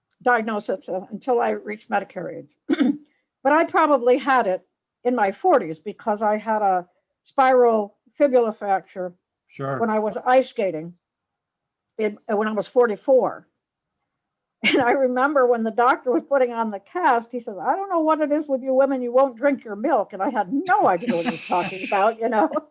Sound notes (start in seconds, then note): 14.7 laughs; 22.5 all laugh